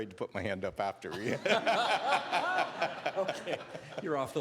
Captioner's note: all laughing